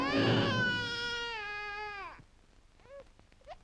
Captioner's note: baby cries